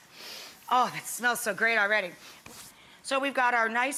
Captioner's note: sniffs